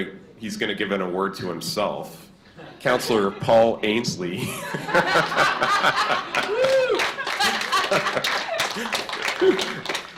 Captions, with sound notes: We're going to, he's gonna give an award to himself. (laughter) Councilor Paul Ainslie. (laughter and cheers)